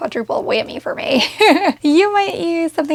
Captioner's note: laughing